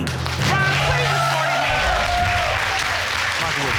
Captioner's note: audience cheering